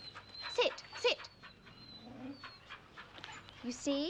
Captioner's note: all panting